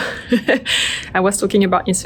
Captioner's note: laughs